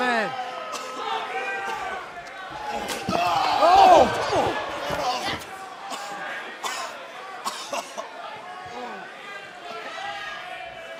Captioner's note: crowd chatter